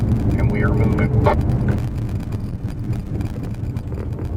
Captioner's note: engine and road noise